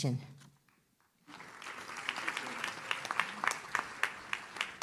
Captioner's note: audience claps